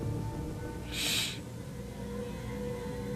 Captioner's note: sniffles